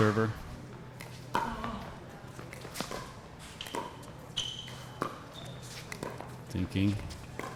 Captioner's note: ball being hit; shoes squeaking